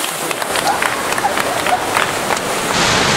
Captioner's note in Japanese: パチパチパチ：拍手